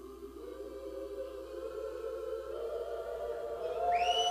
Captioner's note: cheers